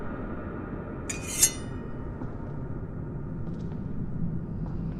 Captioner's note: blade clanking